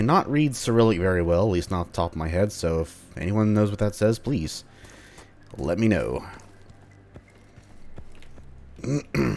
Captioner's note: clears throat